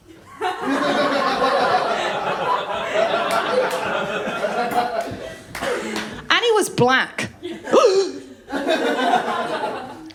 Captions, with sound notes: [LAUGHTER] And he was black. [GASPS] [LAUGHTER]